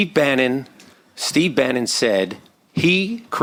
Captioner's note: none